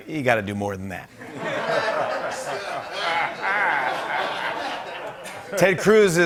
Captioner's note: laughter